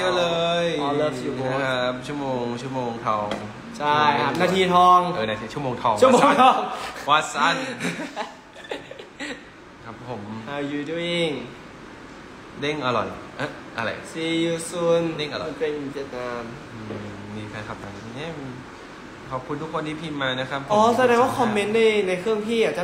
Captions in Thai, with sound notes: ใช่นาทีทอง [เสียงหัวเราะ] ครับผม มีแฟนคลับ ขอบคุณทุกคนที่พิมพ์มานะครับ